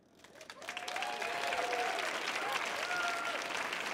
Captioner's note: audience cheering